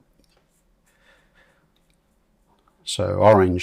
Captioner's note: silence